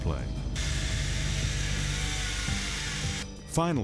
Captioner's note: chainsaw buzzing